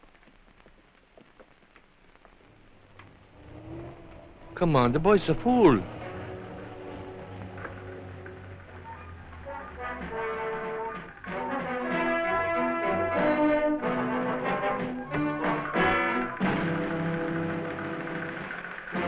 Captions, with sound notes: [TRUCK APPROACHING] Come on. The boy's a fool. [INTRIGUING MUSIC]